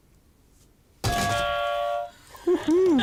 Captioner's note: buzzer